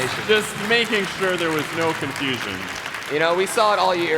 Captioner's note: applause